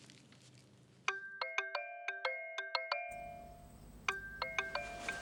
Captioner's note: phone ringing